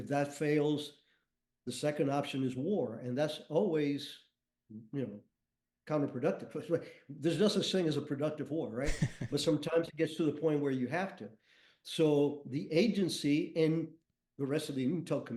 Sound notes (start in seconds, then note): 8.8 chuckles